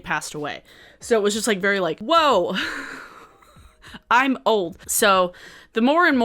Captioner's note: laughs